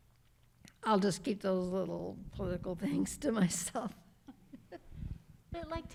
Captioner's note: laughs